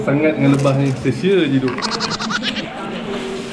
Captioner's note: chipmunk laughs